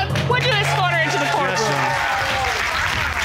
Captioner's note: cheers and applause